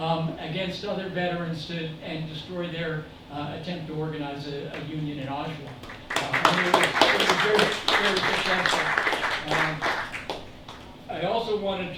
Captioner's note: applause